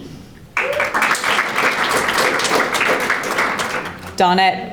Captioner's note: audience applauding